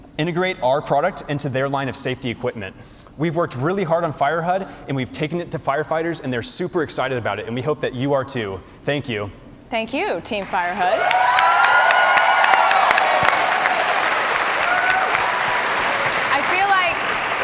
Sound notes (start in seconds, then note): 8.6 cheers and applause